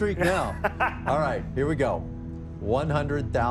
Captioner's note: laughs